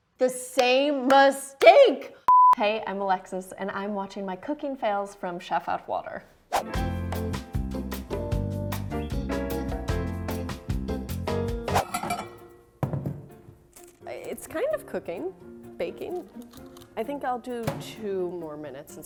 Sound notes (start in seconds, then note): 2.2 beep; 6.5 whoosh; 6.6 upbeat music